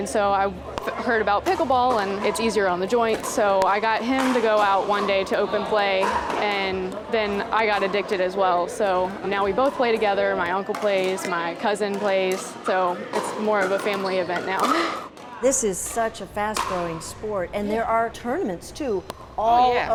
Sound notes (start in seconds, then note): 15.2 laughs